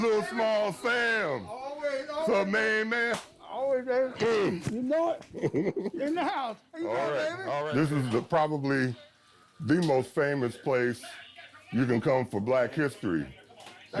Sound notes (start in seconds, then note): 3.0 handshake slaps